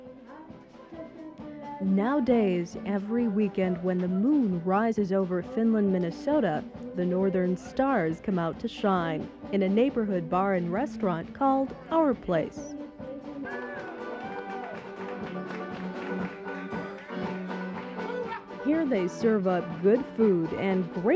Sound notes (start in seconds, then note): 13.3 lively music; 13.4 patrons cheering